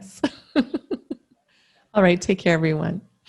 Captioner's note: laughs